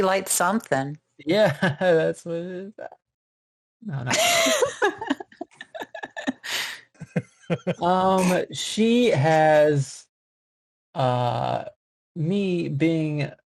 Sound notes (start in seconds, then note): 0.7 nondescript laughter